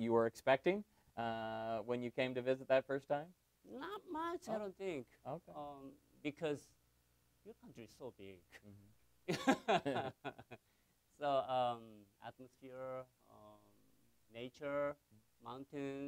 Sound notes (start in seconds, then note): 9.3 laughs